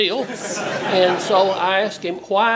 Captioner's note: laugh